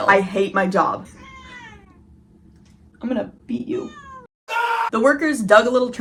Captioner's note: meow; man's voice screaming